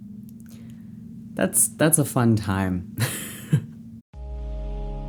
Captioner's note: laughs